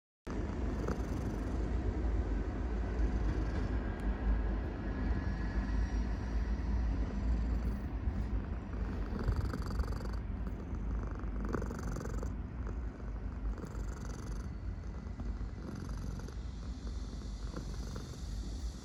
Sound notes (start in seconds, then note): 7.4 purr